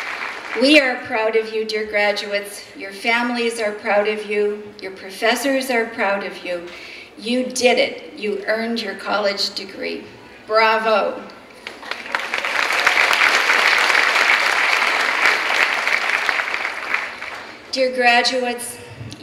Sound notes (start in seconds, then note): 11.6 clapping